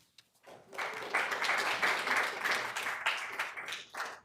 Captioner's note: attendees clapping